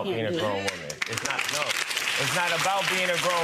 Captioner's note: audience applause